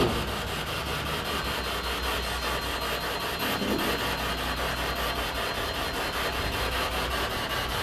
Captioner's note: device beeps again